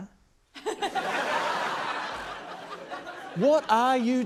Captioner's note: laughter